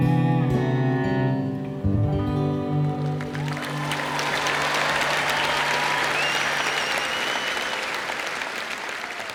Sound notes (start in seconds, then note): 3.0 audience Cheering